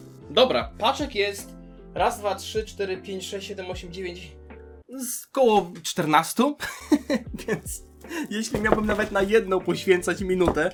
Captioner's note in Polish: śmiech